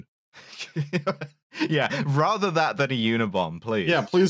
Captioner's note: laughs